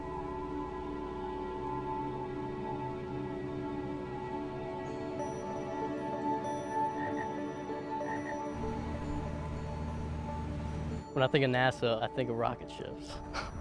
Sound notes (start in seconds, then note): 7.0 frog croaking; 8.5 boat engine